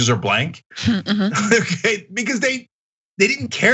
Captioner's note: laugh